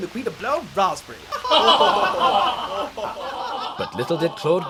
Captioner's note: laughing